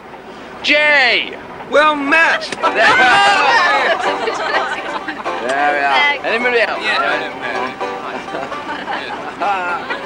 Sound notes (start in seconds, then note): 2.4 all laughing